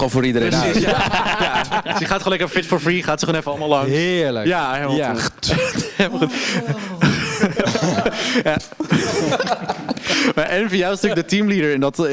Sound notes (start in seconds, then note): 5.0 makes spitting noise; 8.1 follows her lead and the girls crack up